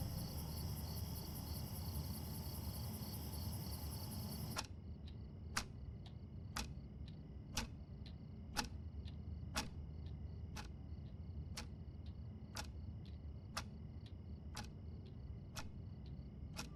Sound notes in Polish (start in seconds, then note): 5.7 Tykanie zegara